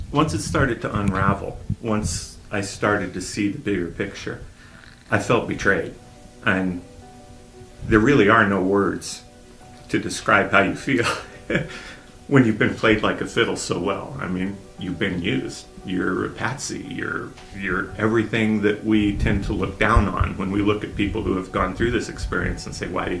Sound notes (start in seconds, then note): 11.0 man begins to cry